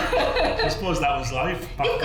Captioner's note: both laugh